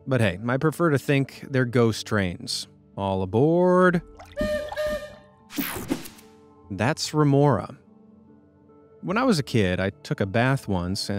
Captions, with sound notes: But hey, my prefer to think they're ghost trains. All aboard. (train hooting) (image whooshing) That's Remora. When I was a kid, I took a bath once